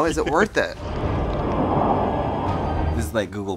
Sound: eerie sounds

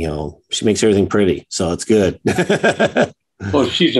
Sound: chuckles

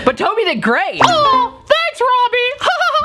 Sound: chuckles

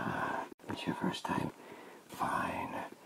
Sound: sigh

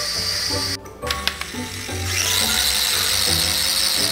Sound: mechanical Whirring

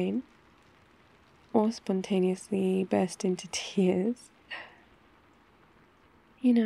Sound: laughs

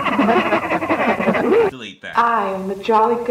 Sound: Ghost of Present cackles

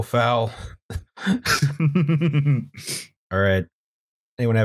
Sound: laughter

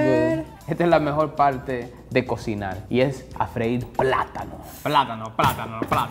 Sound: speaking in foreign language

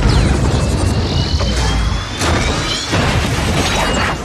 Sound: gunshots and explosions; helicopter crashing

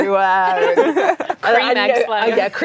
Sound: laughing

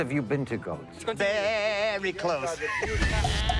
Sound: imitating goat

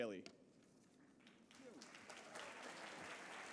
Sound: applause

